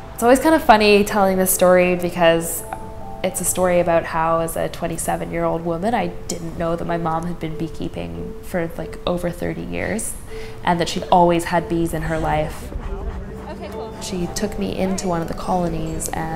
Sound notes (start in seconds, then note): 11.7 people mumbling